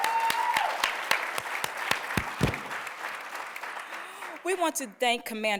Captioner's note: applause